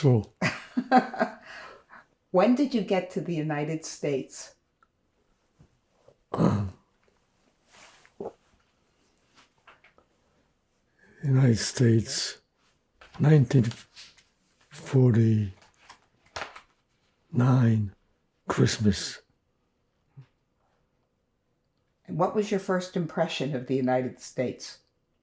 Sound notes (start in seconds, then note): 0.7 laughing; 6.3 clears throat; 7.2 pauses 4 seconds